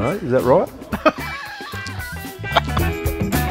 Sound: laughing

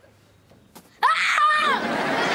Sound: screams

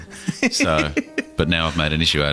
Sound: laughs

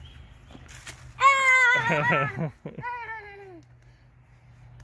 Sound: makes another excited noise

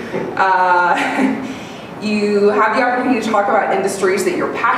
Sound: laughs

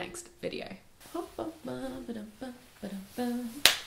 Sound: humming; clapping hands

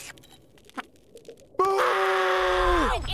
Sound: screaming

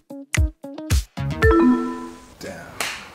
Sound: beeping

